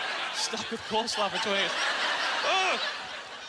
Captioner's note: audience laughter